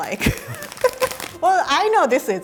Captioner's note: giggles